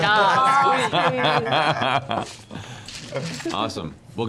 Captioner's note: laughter